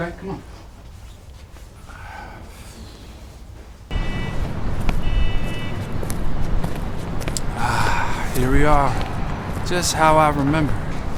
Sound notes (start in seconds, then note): 3.9 horn honking